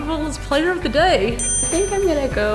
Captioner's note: scoreboard dings